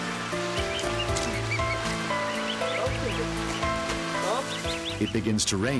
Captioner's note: baby geese chirping